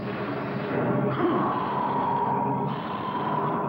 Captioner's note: roaring